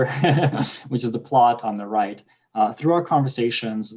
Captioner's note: laughing